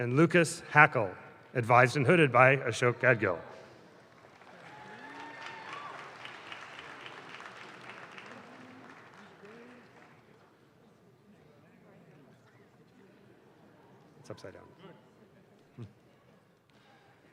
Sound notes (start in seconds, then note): 4.0 audience claps